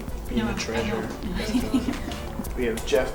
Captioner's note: laughter